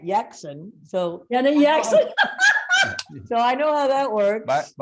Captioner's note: laughs